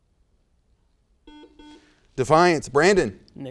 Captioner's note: buzzer noise